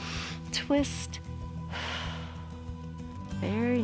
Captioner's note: inhales; exhales